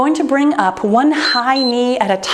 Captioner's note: timer beeps